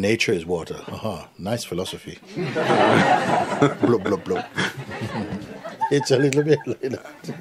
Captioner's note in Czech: smích